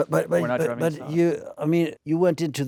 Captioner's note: scoffs